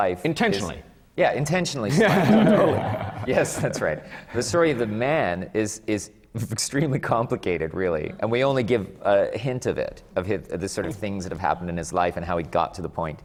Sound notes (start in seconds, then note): 1.9 laughter; 1.9 laughs